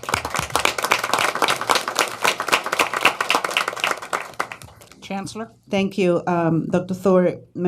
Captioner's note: applause